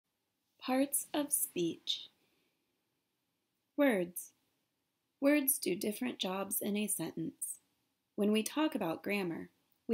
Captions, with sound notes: - [Voiceover] Parts of speech. Words. Words do different jobs in a sentence. When we talk about grammar